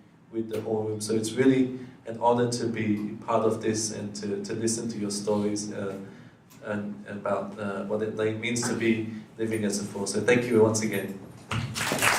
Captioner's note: applause